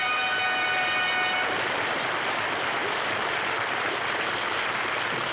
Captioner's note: triumphant fanfare music; audience applauds